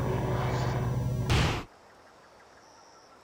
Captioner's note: birds chirping